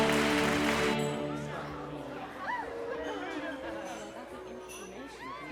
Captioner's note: background chattering